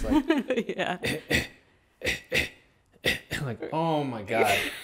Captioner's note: laughs; clearing throat; laughing